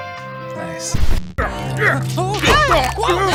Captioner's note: grunt; whine